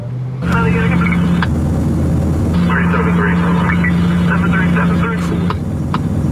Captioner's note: police radio